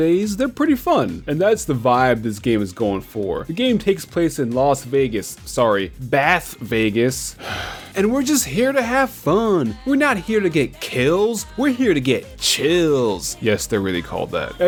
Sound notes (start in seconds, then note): 7.4 sigh